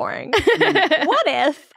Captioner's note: laughing